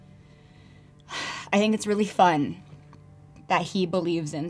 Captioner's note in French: soupire